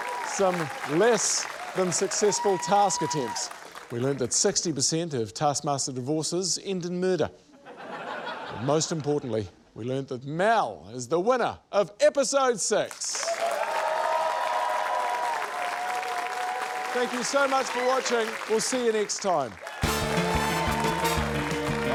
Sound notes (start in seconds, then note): 7.5 laughter; 14.4 cheering, applause